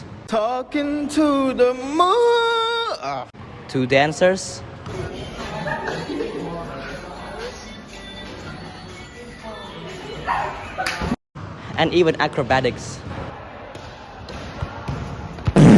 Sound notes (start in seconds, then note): 2.9 augh